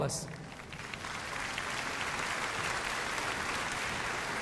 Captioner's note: audience applauding